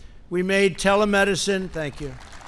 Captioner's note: applause